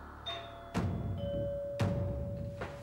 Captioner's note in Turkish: Kapı çalıyor